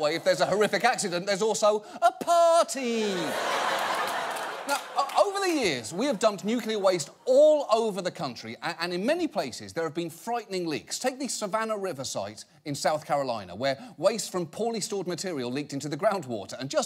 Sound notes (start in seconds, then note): 3.0 audience laughs